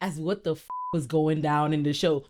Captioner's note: beep